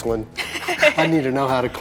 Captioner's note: laughing